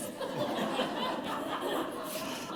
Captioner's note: laughter